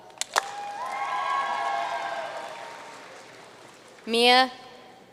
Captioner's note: audience cheering and applauding